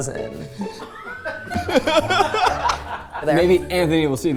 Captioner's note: everyone laughing